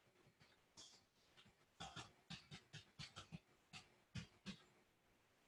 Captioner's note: keyboard tapping